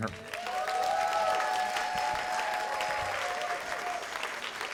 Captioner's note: cheers and applause